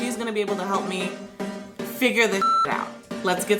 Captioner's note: beep